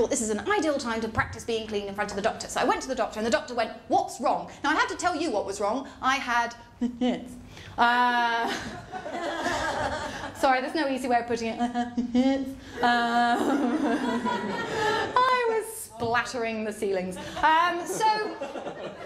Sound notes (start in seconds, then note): 6.4 mutters; 11.7 mutters